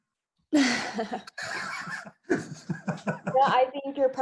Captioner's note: laughing